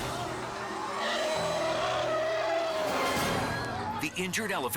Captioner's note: attacking elephant roars